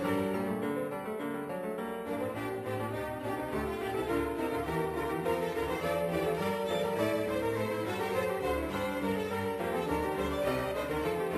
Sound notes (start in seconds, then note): none